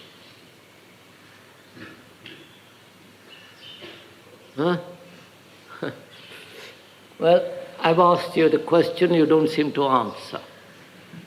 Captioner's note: laughs